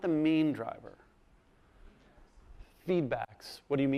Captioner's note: voiceover